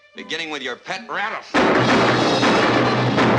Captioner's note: gunshots